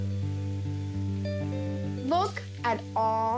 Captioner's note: bacon sizzles